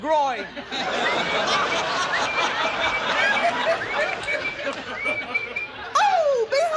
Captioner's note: audience laughing; joyful whistling